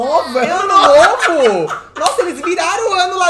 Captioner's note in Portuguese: gargalha